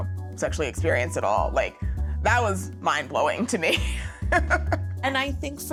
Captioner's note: laughs